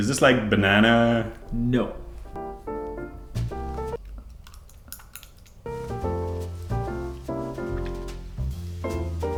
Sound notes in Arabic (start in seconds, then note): 3.0 موسيقى البيانو; 3.9 أصوات لعق; 5.6 موسيقى البيانو